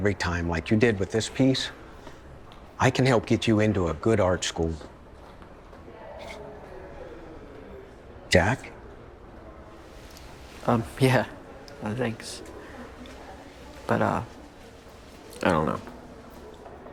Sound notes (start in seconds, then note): 4.9 shoes clacking; 4.9 students chattering